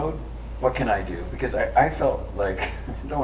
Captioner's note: laughs